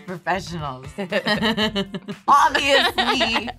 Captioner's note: laughing